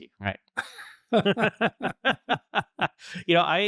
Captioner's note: laughter